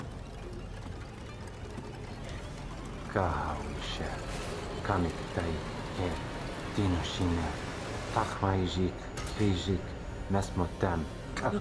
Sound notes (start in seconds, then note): 0.2 suspenseful music; 3.0 Patrick speaking in foreign language